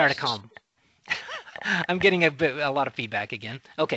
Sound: laughing

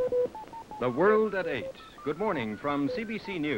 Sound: computer bleeps

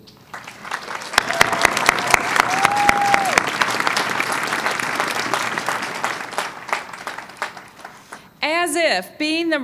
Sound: applause

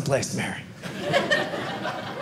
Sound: audience laughing

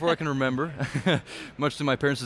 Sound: chuckles

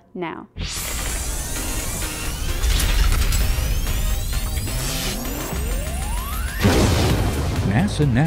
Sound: sound Effects

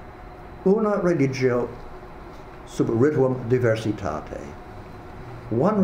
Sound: speaking a foreign language

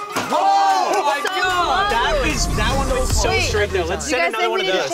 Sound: screaming and laughing

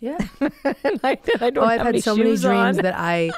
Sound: laughs

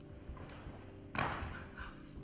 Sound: body slams

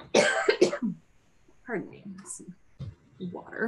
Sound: coughs

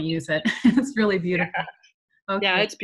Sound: laughs

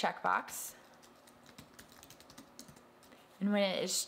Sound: keyboard keys clacking

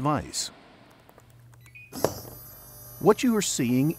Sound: fingers typing on keyboard; electronic beeping

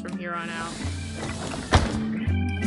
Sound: bus doors close; end credits music

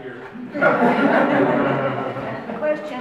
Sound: audience laughs

